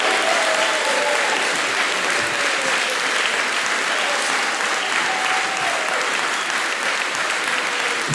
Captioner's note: applause